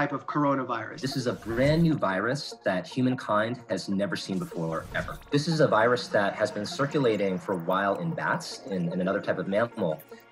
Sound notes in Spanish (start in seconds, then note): 0.8 hablando en inglés